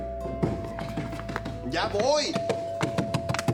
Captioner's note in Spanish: toques en la puerta